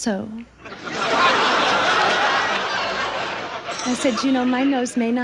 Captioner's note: audience laughs